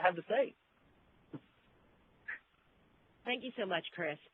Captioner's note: laughs